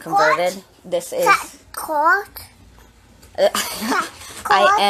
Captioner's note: child speaking gibberish